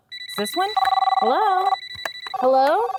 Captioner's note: phone ringing